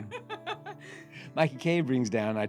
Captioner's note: laughing